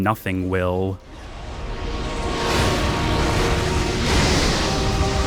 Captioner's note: whooshing; flames roaring